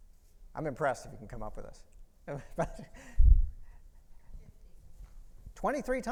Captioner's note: chuckles